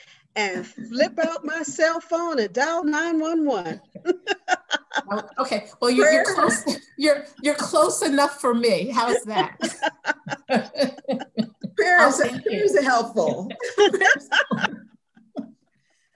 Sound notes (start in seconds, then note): 9.0 laughter